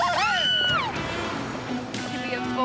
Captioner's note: Jill squeals